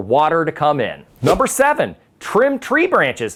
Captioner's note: text whooshes